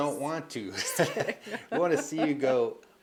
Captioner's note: laughing